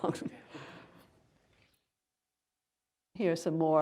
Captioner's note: laughter